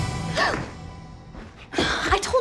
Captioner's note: gasps